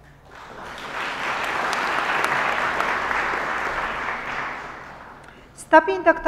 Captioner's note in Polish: oklaski